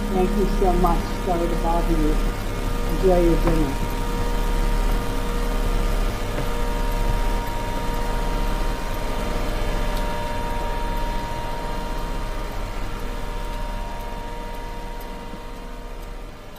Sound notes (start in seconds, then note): 4.6 clock ticks; 4.6 eerie atmospheric music